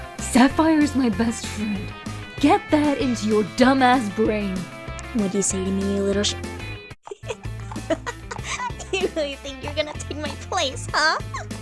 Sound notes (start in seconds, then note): 6.7 hoof steps; 7.0 chuckles from an unhinged unicorn; 8.7 hoof steps